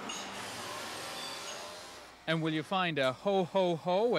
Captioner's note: machines whirring